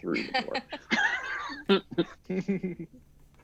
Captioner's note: cast chuckles